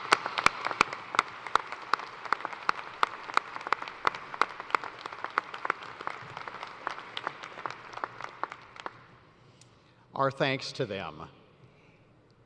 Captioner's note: applause